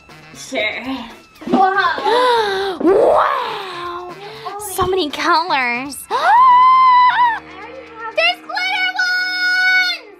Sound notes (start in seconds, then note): 6.3 Gertie gasping